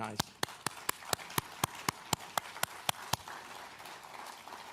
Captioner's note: audience applauds